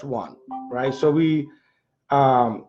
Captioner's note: phone beeping